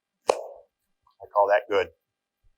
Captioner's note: hands clap